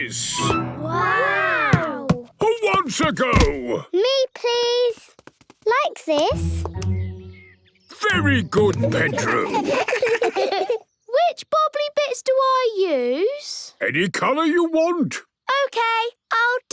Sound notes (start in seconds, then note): 8.5 children giggle